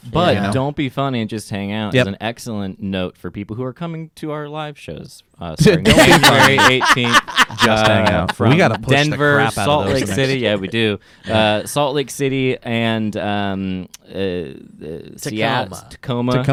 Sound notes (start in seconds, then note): 5.8 laughing